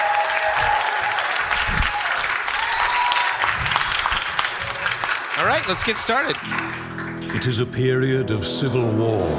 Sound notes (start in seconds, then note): 5.3 cheering, applause; 6.4 orchestral main theme music begins